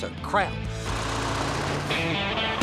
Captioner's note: truck engine rumbling